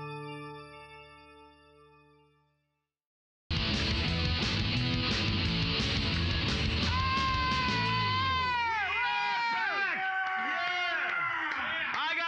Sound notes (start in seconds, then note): 3.5 hard rock music; 3.7 cheers and applause